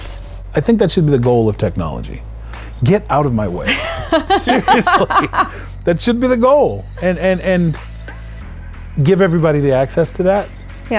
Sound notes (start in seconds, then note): 3.6 laughing